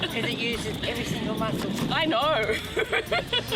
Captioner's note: laughs